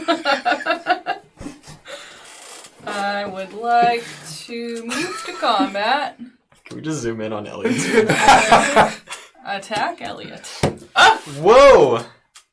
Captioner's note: laughs